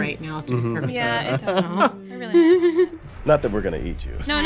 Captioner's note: laughing